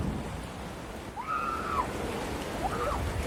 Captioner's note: excited screaming